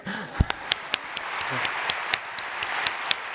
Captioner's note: applause